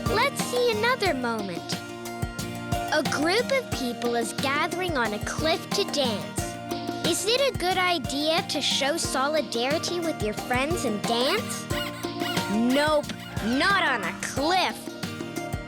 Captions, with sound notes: Let's see another moment. A group of people is gathering on a cliff to dance. Is it a good idea to show solidarity with your friends and dance? (squeaking sound) Nope, not on a cliff.